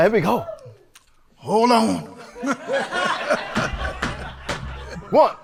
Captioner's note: audience laughing